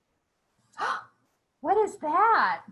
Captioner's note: gasping